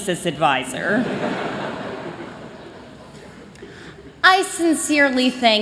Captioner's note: laughter